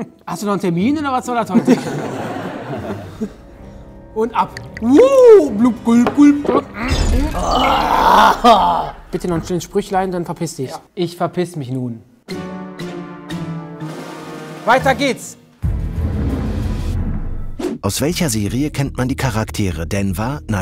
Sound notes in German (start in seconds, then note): 1.5 Gelächter; 4.5 imitiert Trinkgeräusche; 7.3 Schluckgeräusche, angewiderte Laute; 15.5 Spannungsvolle Musik